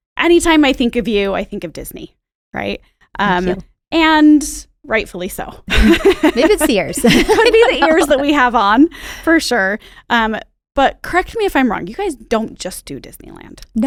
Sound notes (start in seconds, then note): 5.8 laughs